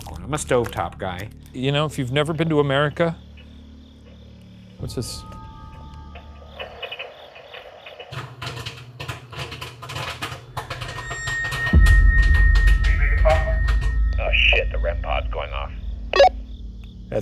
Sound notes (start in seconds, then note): 8.1 popcorn crackling; 10.5 eerie music